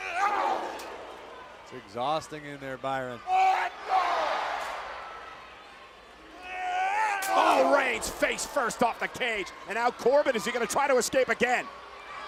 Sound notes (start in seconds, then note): 0.1 wrestlers grunting; 3.7 wrestlers grunting